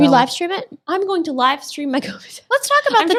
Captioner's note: laughs